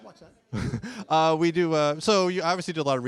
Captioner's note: chuckles